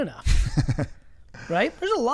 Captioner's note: laughs